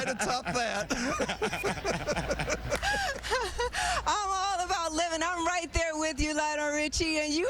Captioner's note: laughter